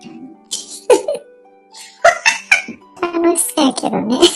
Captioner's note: laughs